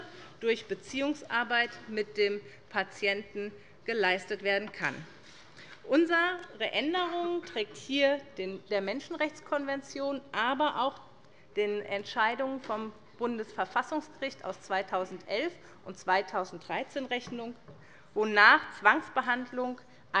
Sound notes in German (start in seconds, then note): none